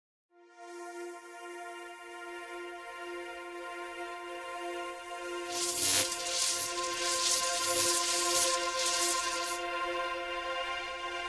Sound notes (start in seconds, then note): 0.5 calm ambient music; 5.4 electricity crackling